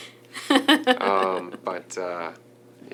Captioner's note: laughing